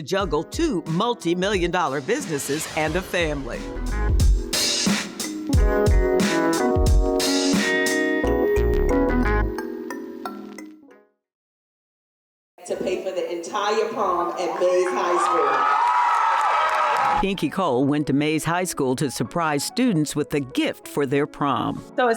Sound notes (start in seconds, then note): 14.1 cheers and applause